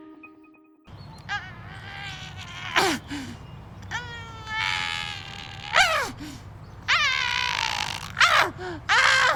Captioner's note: straining